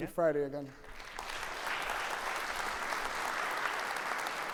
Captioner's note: audience applauding